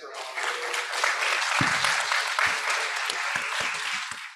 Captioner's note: applause